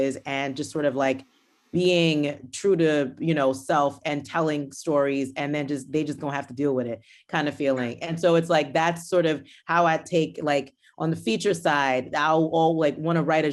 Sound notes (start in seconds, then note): none